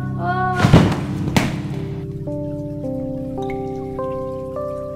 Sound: poof!

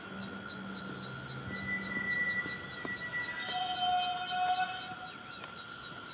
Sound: whistle echoing

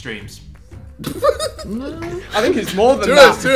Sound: group laughing

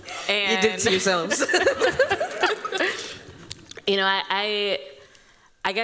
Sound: laughter

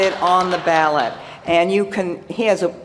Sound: applause

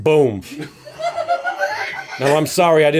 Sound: laughter

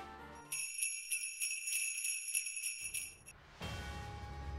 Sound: sleigh bells

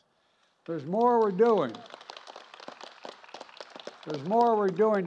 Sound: applause

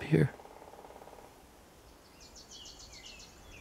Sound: woodpecker hammering

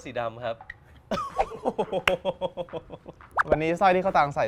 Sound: laughs

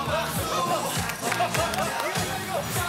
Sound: clap clap! Clap clap!

